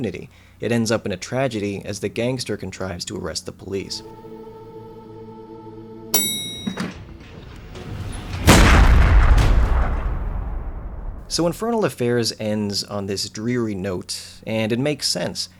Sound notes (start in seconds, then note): 6.1 elevator bell chimes; 8.0 gunshot